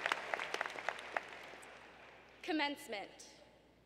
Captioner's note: applause